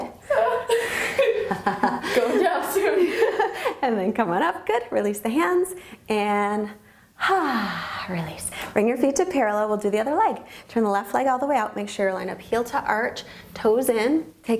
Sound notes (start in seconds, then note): 0.2 laughing; 6.5 exhaling